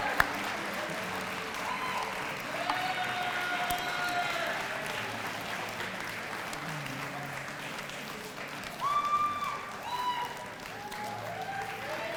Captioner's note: applause